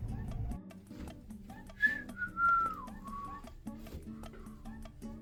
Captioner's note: continued Awkward Whistling